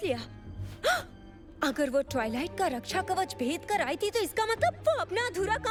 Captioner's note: gasps